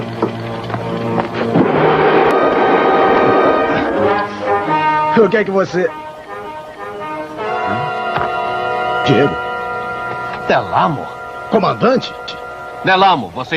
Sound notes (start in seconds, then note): 2.4 laughing